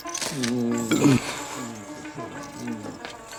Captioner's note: groaning; shutter Clicking; belching